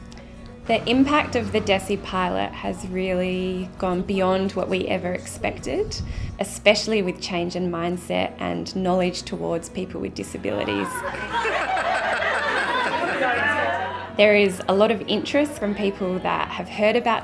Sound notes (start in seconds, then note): 10.8 laughter